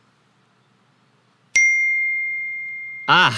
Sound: ding

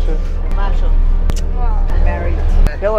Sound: costumed person speaking Italian; person speaks Italian; smooches

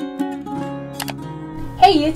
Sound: mouse click

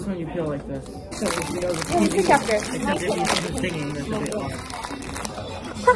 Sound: crinkly sounds

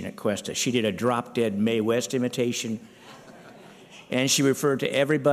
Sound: laughter

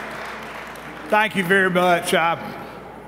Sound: clapping

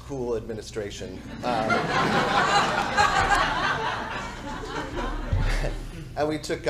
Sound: audience Laughing

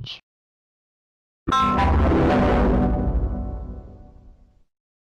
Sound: Devil Windows Server 2003 Shutdown Sound

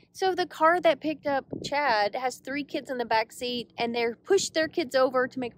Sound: none

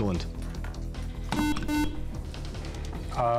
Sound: beep

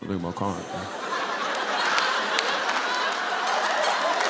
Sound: laughter

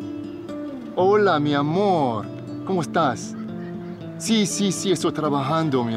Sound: Alejandro speaking Spanish

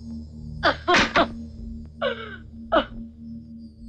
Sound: wailing

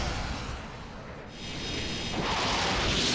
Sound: whirring

